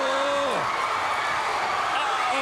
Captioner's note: crowd cheering